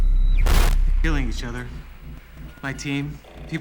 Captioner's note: static